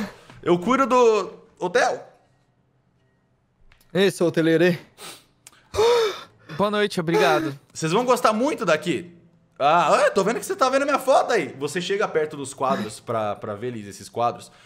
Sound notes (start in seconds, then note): 5.6 still gasping for air